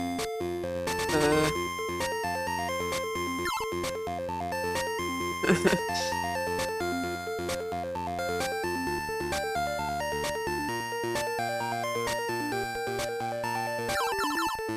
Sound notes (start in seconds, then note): 5.4 laughs